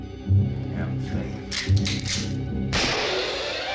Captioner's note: gun cocking; gun firing